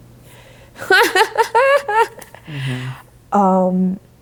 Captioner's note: laughing